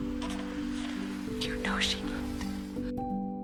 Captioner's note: whispering